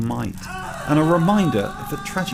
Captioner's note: man screaming